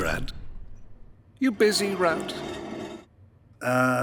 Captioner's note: dragging concrete sound